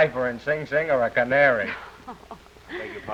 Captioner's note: laughing